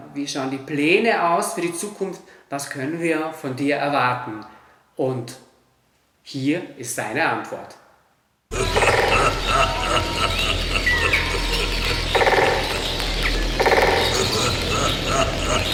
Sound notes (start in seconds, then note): 8.5 a bird sings and a male voice: HA-HA-HA-HA-HA